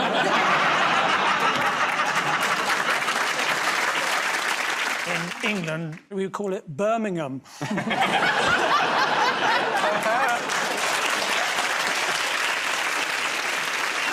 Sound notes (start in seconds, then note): 0.0 laughter; 2.7 applause; 7.6 laughter; 12.9 applause